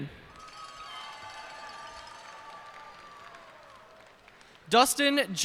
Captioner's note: cheers and applause